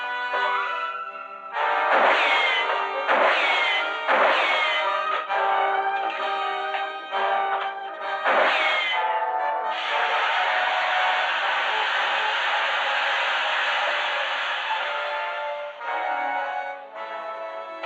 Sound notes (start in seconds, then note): 1.6 gunshots; 9.8 flame hissing